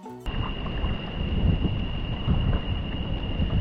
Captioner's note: wind blowing